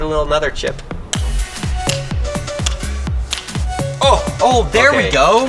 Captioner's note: hatchet clinking against tooth